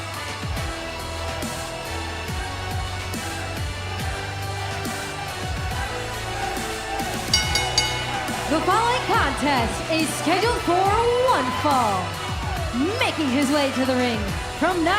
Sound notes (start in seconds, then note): 7.2 bell ringing